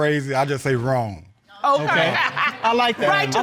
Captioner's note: all chuckling